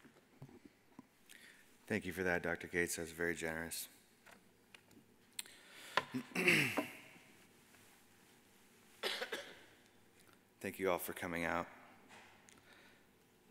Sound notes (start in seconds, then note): 6.1 clears throat; 9.0 man coughs